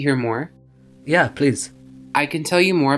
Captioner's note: voiceover